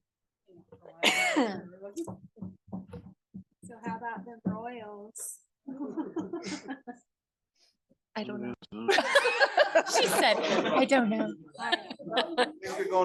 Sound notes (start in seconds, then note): 6.0 group laughing